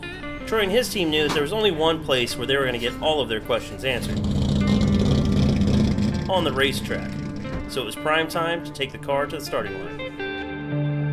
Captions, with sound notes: Troy and his team knew that there was only one place where they were going to get all of their questions answered. (car engine revving) On the race track. So it was prime time to take the car to the starting line.